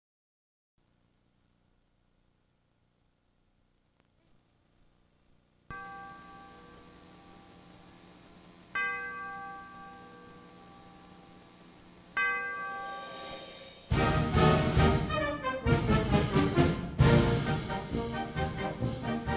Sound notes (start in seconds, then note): 5.7 bell chiming